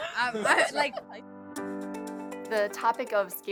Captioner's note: student laughing